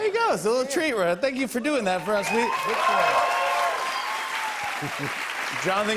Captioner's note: cheers and applause